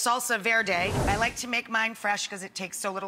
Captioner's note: whooshing